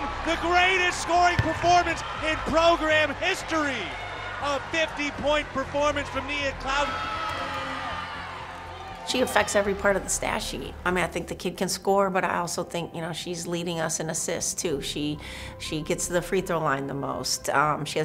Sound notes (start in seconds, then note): 7.2 crowd cheering